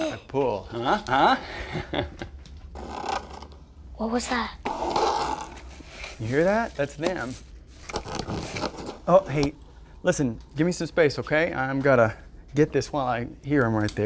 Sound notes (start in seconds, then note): 0.1 chuckles; 2.6 scraping